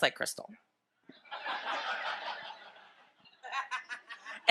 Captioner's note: audience laughs